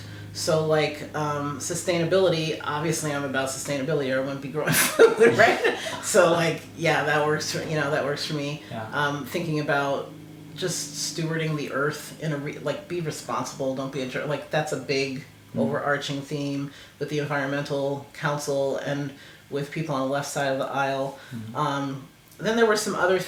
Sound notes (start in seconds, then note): 4.6 laugh